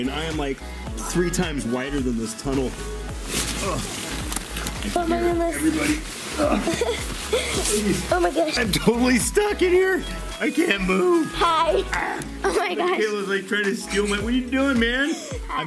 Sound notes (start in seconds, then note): 3.6 grunts; 6.3 chuckles; 6.8 grunts